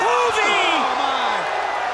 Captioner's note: applause